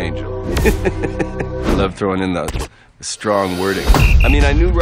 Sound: laughs

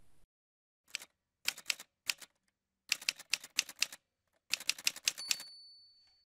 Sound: typewriter sounds

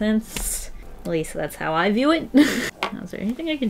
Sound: laughs

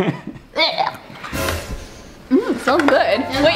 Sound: laughs; tense music; retches

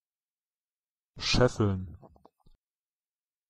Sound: fast Pronunciation

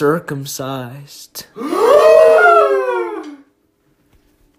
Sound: loud gasp

